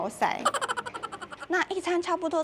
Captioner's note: laughs